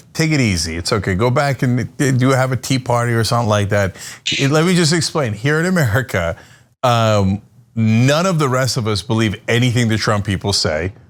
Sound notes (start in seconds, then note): 6.1 laugh